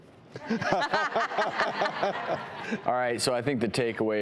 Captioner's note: laughing